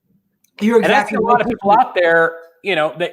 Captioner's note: murmurs